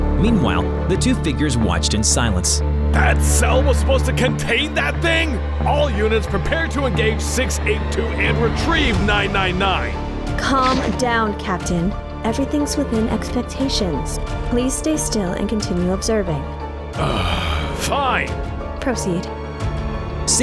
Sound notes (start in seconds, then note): 17.0 exhales